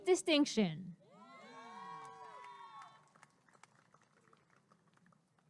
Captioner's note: applause and cheering